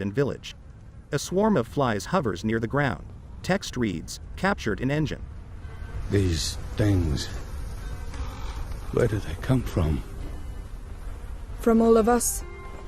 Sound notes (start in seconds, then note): 2.4 wind blowing